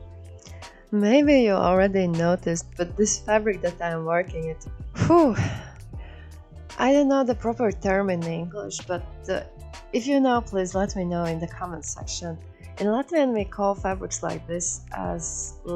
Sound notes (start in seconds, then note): 5.5 heavy exhale